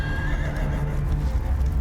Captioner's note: neighing